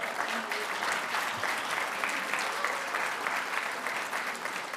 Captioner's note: audience applauding